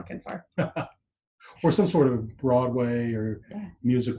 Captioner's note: laughs